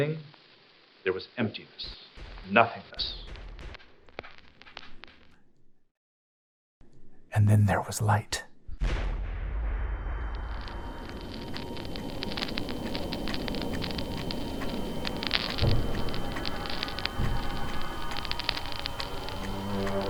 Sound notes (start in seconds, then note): 11.1 high-pitched tone whirring, air crackling; 12.5 clock ticking